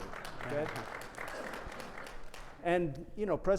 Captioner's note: attendees clapping